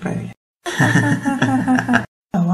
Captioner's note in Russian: Смеются